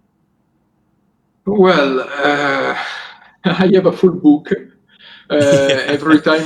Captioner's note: laughs